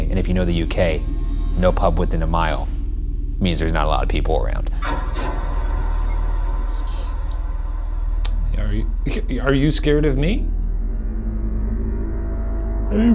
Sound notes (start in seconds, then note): 4.9 eerie music; 8.3 chuckling; 11.0 eerie music